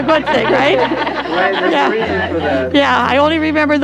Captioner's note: all laughing